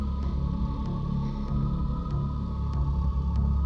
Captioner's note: Katherine breathes uneasily; tense music continues